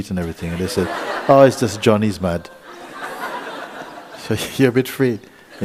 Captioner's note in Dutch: gelach